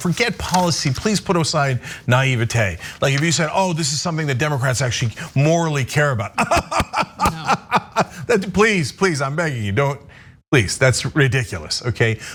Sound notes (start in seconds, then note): 6.3 laugh